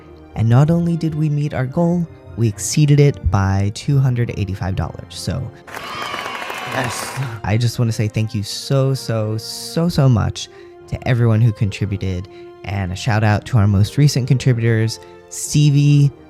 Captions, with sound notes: And not only did we meet our goal, we exceeded it by $285. So [applause, cheering] Yes! I just want to say thank you so, so, so so much to everyone who contributed and a shout out to our most recent contributors: Stevie,